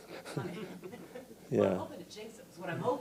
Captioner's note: everyone laughing